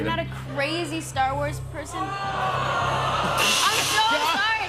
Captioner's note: audience groaning